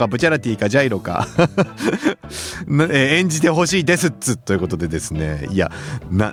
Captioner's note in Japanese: 笑い